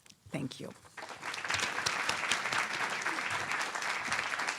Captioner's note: applause